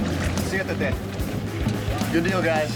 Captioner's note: speaks foreign language